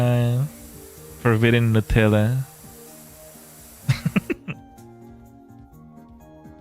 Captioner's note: laughter